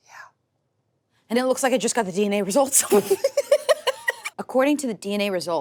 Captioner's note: laughs